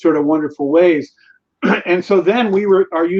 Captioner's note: clears throat